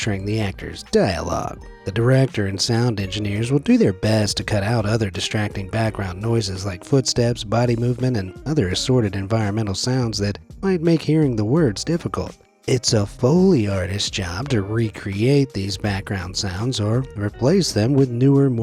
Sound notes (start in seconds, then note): none